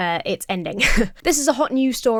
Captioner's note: chuckles